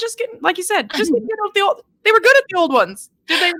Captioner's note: speaking faintly